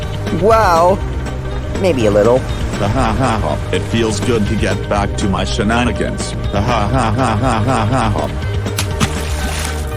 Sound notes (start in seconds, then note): 3.1 laughing